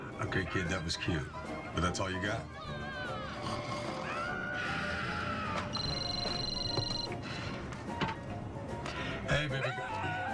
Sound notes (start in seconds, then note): 3.3 fake snores; 5.7 phone rings